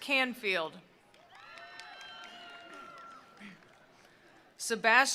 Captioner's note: attendees applauding; attendees cheering